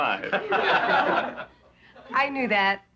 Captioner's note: laughing